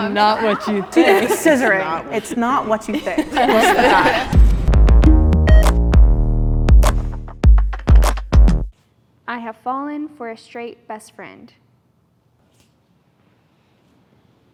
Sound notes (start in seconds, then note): 3.8 participants laughing; 6.0 upbeat electronic music